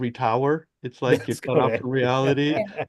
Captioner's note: laughs